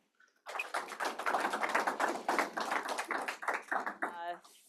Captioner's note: applause